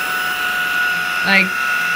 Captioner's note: vacuum noises